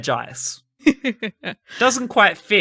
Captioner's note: sensible chuckle